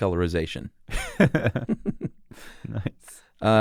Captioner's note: laughs